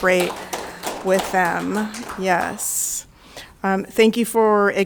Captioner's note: audience clapping